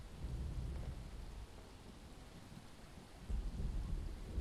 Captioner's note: thunder rolling